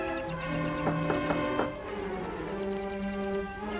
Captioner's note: knocking